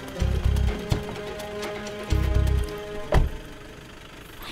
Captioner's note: Car door opens and closes